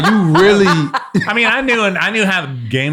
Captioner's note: all laugh